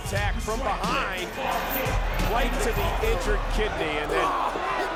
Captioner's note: chain rattling; blows thudding